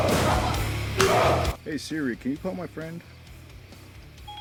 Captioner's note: Dark Shadow yells out in anger; hard slap; Suzette’s back cracks against the lockers